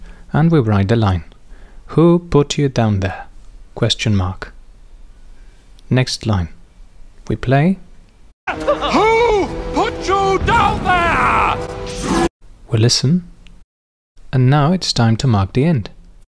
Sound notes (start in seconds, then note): 10.0 screams